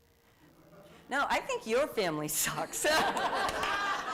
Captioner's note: laughter